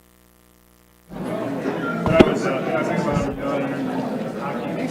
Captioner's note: attendees chattering